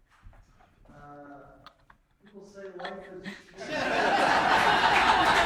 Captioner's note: gasping noises